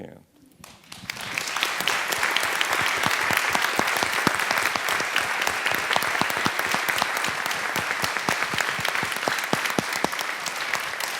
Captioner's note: audience applause